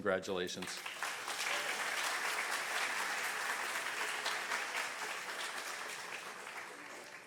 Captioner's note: audience applause